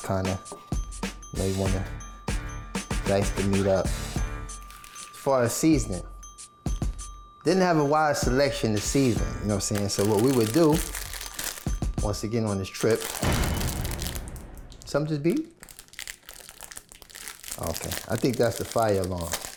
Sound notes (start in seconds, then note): 13.3 door slams; 16.5 plastic rustles